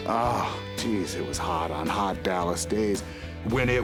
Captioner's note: groans